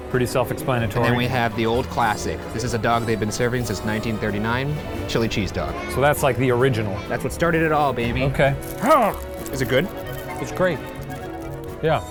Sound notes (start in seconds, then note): 8.7 grunting